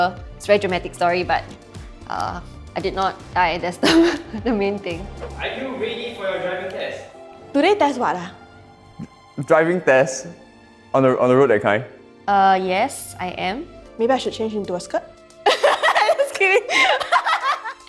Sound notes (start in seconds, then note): 15.5 laughs; 16.7 laughs louder